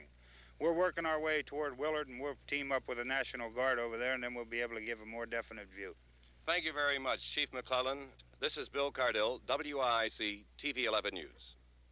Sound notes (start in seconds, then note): none